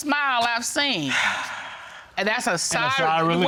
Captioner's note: sighing with relief